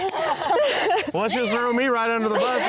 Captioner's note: all chuckle